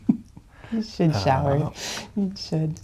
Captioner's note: chuckles